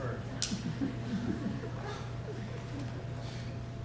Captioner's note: laughter